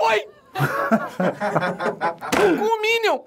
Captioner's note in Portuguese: risadas